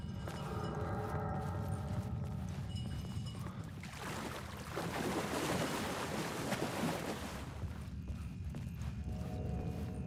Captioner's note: water splashing